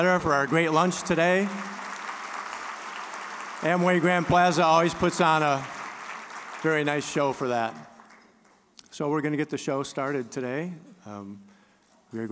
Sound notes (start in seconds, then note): 1.8 applause